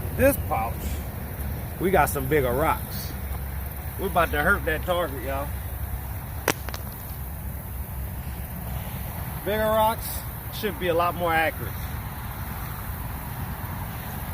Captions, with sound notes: This pouch, we got some bigger rocks. We 'bout to hurt that target y'all. (rocks hit ground) Bigger rocks should be a lot more accurate.